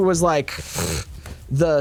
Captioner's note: pfft